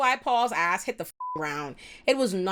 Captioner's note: beep